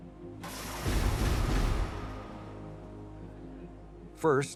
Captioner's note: legs snapping into place